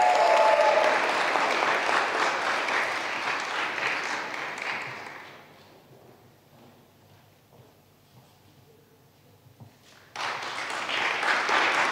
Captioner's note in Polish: oklaski